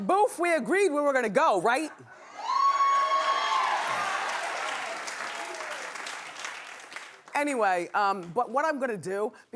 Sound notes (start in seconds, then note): 2.2 cheering